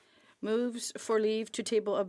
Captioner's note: speaking French